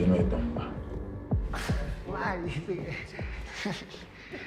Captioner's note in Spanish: Riendo